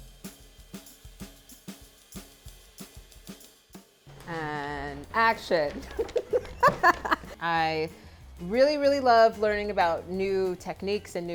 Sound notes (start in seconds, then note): 0.1 soft drums; 5.6 laughs